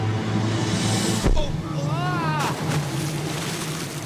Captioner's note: grunts, yells